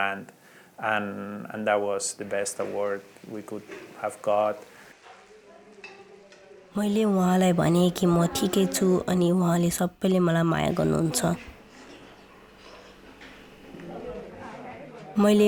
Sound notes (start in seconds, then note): 8.2 a child speaking in local dialect